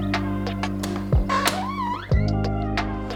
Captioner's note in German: Türquietschen